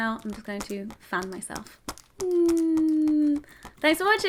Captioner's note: hums